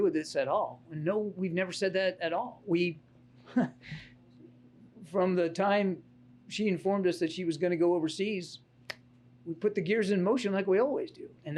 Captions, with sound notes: with this at all. No -- we've never said that at all. We -- (laughs) -- from the time she informed us that she was going to go overseas, we put the gears in motion like we always do.